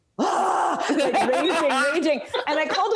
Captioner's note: laughing